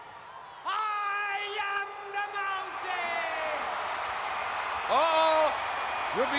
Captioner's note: crowd cheering